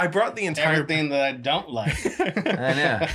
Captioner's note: laughing